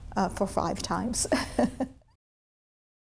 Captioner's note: chuckles